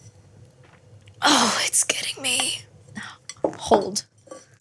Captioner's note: strained voice